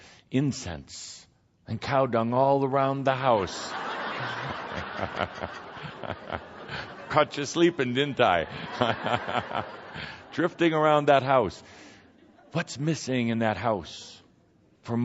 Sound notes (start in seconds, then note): 3.4 laughter and Kuthumi laughing; 9.2 more laughter